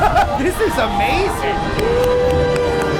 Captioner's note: laughing; clapping